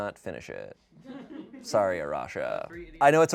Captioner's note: audience laughing